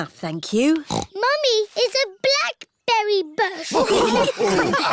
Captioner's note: snorts; all laughing